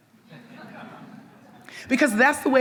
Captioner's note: audience members laugh